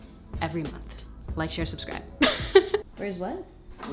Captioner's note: laughter